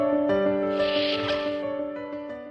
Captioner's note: intro music; music fades; sound of door opening